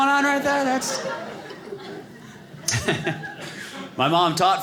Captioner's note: audience laughing